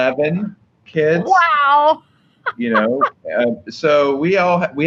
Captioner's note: laughs